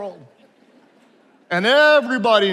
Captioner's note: attendees laughing